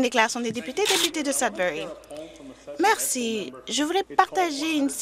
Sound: speaking Alternate Language

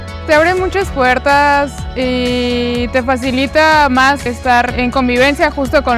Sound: speaking in foreign language

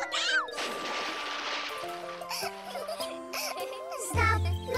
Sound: laughing

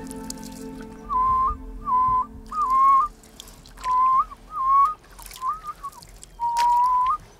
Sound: whistling

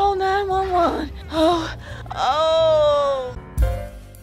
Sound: cries of agony

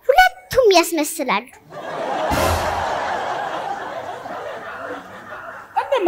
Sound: laughter

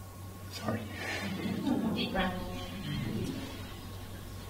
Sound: laughter

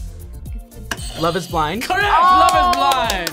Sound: buzzer rings

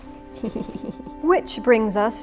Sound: slightly sinister giggling

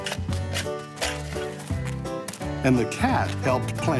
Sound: shovel scraping

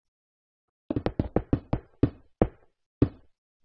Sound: multiple blocks breaking; block breaks

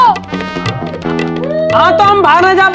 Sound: crying

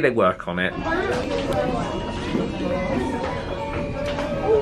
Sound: guests chattering

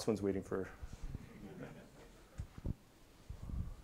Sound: laughter

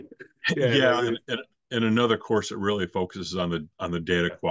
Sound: laughs

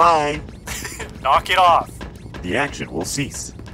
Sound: laughs

